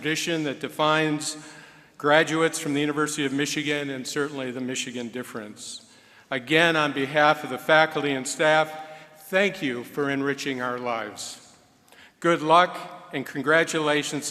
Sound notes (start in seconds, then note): none